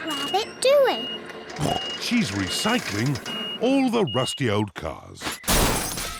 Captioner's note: snorts